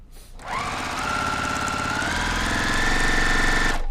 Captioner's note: machine sewing